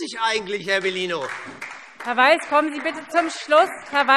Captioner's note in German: Beifall : Sie sind sehr mutig!